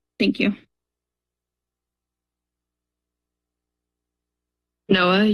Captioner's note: silence